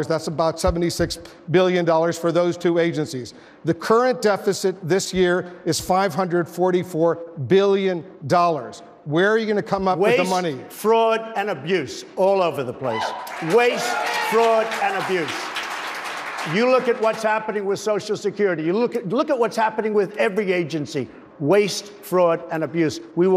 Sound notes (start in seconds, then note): 16.0 applause